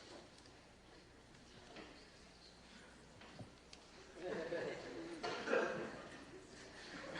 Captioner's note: laughter